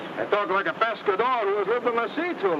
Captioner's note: speaks in foreign language